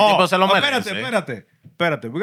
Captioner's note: non-english Speech